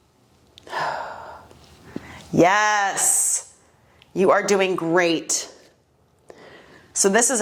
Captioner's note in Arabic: زفير